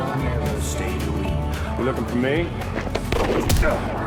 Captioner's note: gunshot; PUNCH,</i> <i> GRUNTS